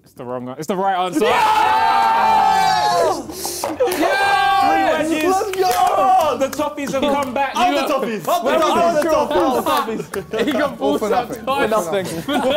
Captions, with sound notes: - It's the wrong an... It's the right answer. (Toffees cheering) - The Toffees have come back. - Up the Toffees. - Up the Toffees. (crowd mumbling)